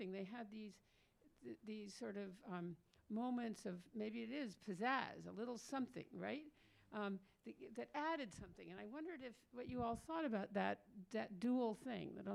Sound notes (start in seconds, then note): none